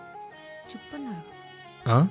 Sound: murmurs

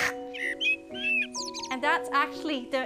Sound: bird singing

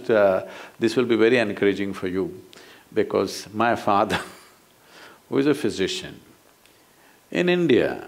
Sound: laughs

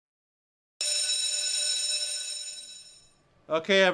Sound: bell ringing

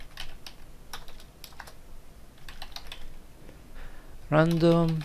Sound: typing

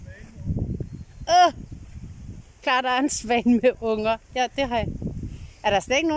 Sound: laughing nervously

